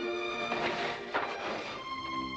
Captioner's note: shade rolling up